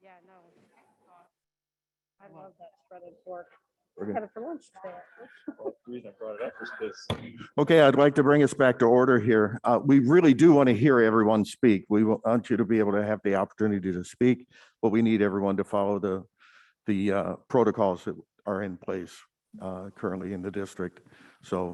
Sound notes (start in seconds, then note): 4.9 laughs; 7.3 mallet bangs